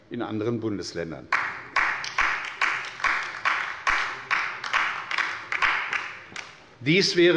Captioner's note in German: Beifall bei der LINKEN